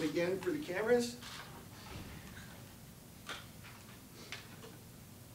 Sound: cameras shuttering

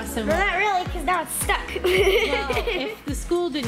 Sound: laughs

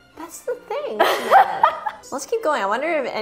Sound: laughs

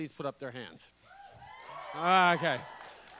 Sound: cheers

